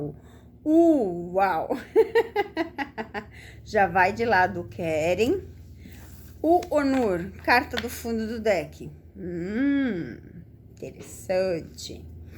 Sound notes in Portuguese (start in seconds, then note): 1.8 risadas